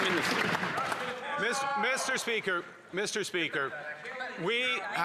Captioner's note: applause